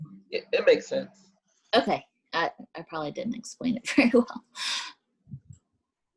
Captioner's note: laughs